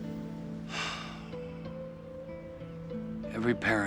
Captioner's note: sighs